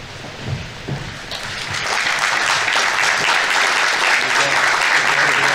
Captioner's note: audience applauding